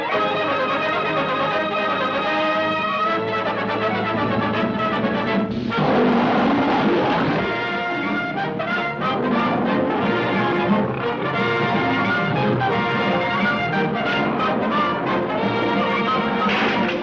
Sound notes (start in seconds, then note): 0.0 triumphant music; 5.6 cat snarls